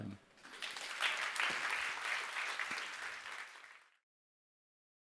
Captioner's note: applause